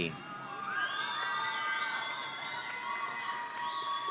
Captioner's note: audience cheering